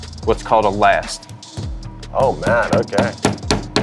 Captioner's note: hammer tapping